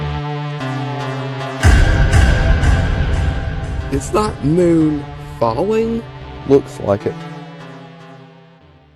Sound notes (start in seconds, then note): 1.6 boom